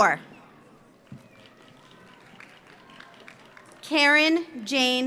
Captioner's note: audience applauds